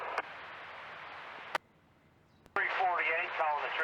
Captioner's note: radio chatter; radio chatter